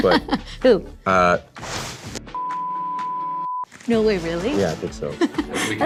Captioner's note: beeping